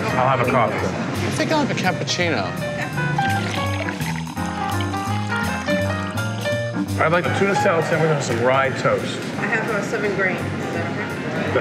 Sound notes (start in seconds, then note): 3.1 liquid pouring